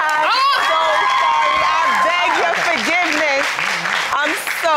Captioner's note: audience cheering